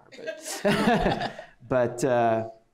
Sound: laughter

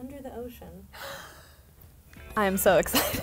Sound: excited gasp; laughs

